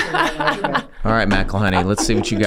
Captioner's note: laughs